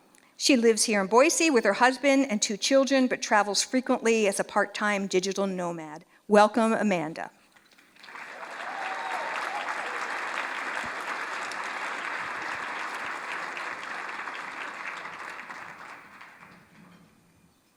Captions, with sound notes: She lives here in Boise with her husband and two children but travels frequently as a part-time digital nomad. Welcome, Amanda. [Applause]